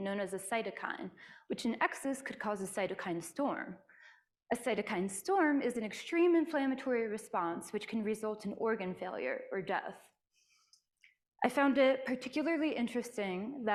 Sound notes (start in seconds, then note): none